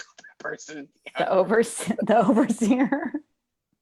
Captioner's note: laughs